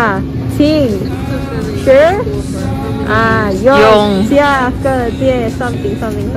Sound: reading chinese characters

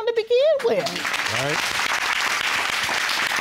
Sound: applause

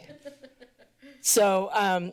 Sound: laughter

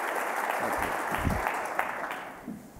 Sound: applause

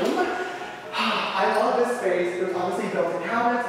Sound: exhales as if satisfied

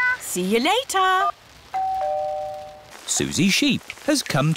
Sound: doorbell rings

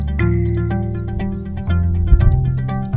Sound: frogs calling; thunder

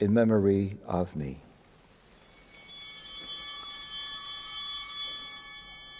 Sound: altar bells ringing

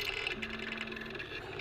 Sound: phone ringing

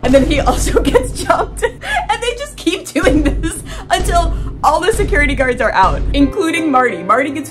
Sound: boom; several vine booms; sad piano

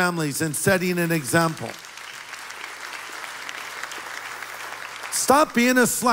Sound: applause

